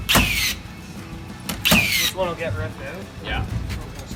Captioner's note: nail gun whirring